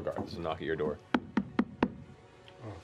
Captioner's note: knocks on table